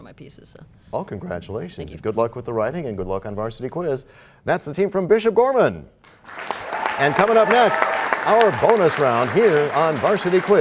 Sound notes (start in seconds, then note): 6.1 cheers and applause